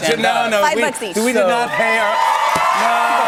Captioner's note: cheers and applause